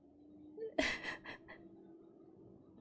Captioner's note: laughs